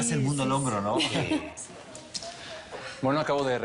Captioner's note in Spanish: Risas